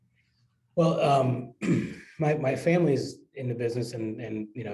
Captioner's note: cough